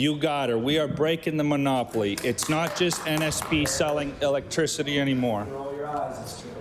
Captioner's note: some Applause